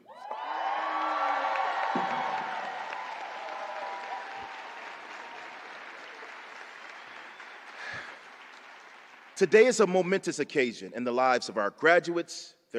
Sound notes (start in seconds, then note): 0.3 applause